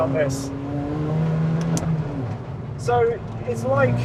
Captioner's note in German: Motordrehzahl steigt an